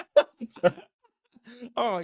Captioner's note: both laughing